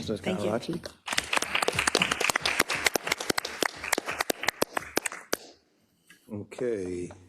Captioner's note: applause